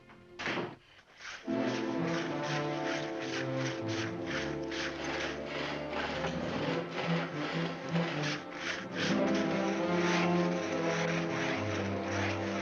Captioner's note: door closing; saws cutting wood; ominous music